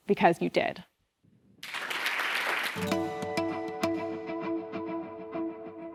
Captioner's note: applause